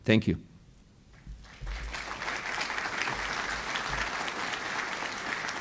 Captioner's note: applause